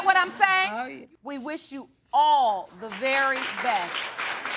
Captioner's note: audience applauding